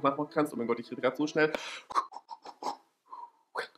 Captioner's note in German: inhale